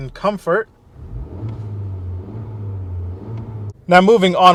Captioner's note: revs engine